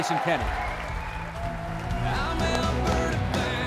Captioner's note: cheering